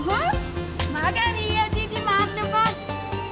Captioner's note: in Georgian